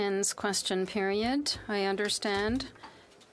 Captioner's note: speaking French